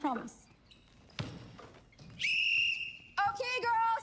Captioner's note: whistle blowing